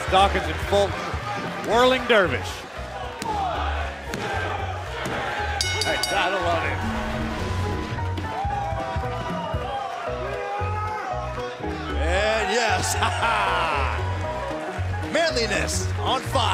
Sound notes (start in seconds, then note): 5.5 bell